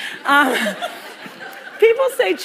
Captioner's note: laughter